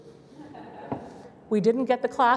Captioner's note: laughter